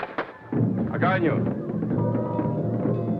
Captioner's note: drumming music; hands clap; Timickpao speaks foreign language; indigenous drumming music